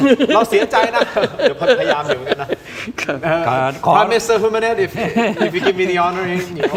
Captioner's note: laughter